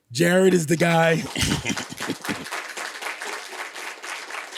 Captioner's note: applause